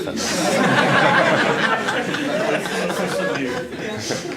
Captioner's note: laughter